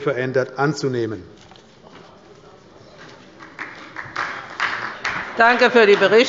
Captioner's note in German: Beifall bei Abgeordneten der SPD